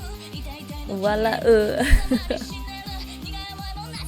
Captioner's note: laughs